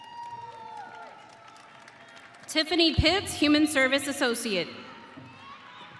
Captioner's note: audience cheering